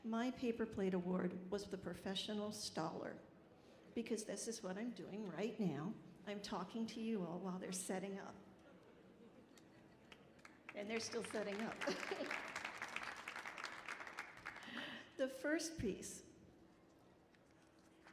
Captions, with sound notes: My paper plate award was the Professional Staller because this is what I'm doing right now. I'm talking to you all while they're setting up. And they're still setting up. (audience applauding) The first piece